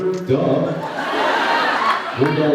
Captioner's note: laughs